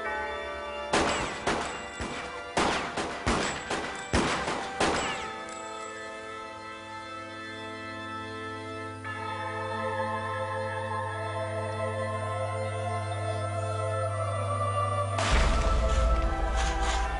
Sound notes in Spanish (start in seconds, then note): 0.9 Disparos